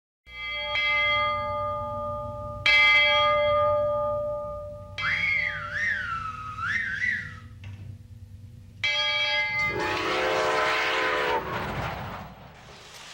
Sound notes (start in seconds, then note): 0.3 bell clanging; 5.0 loud whistling; 8.8 bell clanging; 9.7 whistle blowing